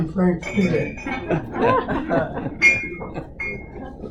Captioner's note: laughter